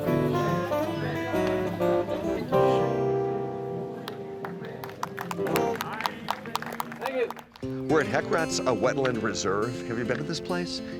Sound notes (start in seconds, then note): 0.0 blues guitar; 3.9 people clapping